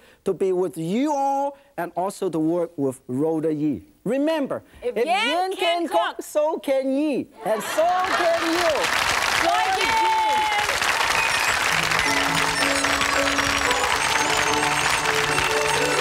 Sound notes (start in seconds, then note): 8.2 audience clapping; 9.8 joyful music